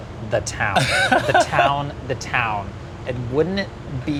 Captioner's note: laughing